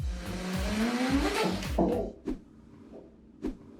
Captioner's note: tool drilling